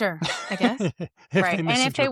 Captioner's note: laughs